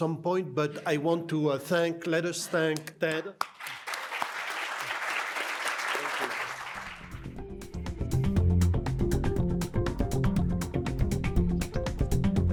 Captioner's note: applause